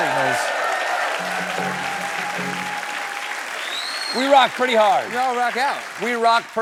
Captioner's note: cheers and applause